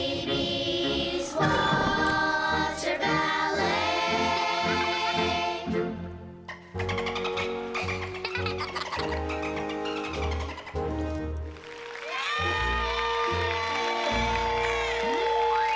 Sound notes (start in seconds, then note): 8.3 dolphin sounds and laughter; 13.1 applause